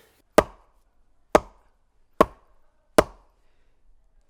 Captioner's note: log thumping